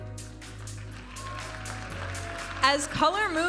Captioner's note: audience applauding and cheering